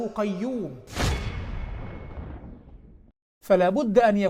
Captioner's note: sound effect